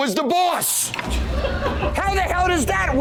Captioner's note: laughter